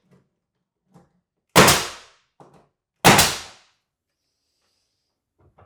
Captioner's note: nail gun popping